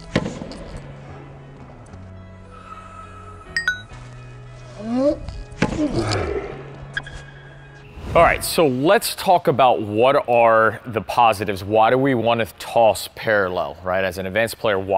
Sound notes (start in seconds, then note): 0.1 hitting tennis ball; 0.7 gentle instrumental music; 3.6 notification bell ringing; 5.6 hitting tennis ball; 5.7 grunting